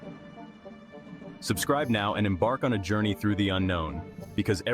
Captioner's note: voice-over